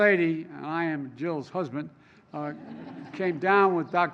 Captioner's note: laughter